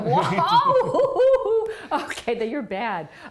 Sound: both laugh

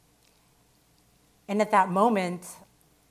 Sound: none

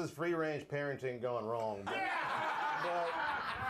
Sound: laughter

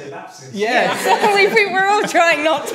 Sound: group laughing

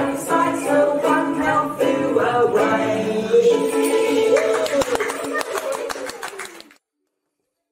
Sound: applause

